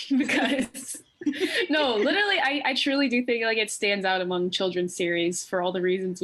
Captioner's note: laughter